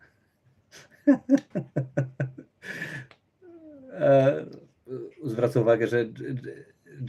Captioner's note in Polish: śmiech